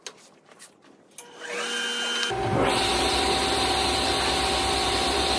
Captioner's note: saw whirring